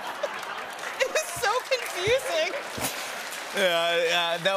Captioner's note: laughter; applause